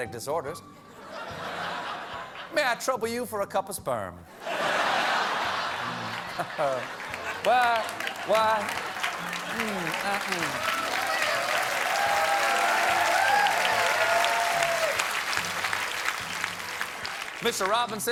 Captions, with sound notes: MAY I TROUBLE YOU FOR A CUPPA SPERM?" ( LAUGHTER ) ( APPLAUSE ) MR. ROBINSON WOULD ALWAYS OBLIGE.